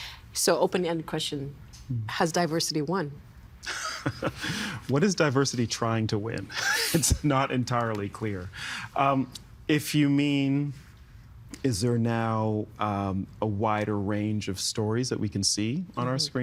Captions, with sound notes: So, open-ended question, has diversity won? (Laughing) What is diversity trying to win? It's not entirely clear. If you mean is there now, um, a wider range of stories that we can see on our screens?